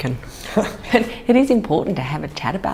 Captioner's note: laughter